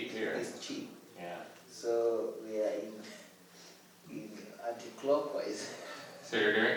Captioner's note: laughs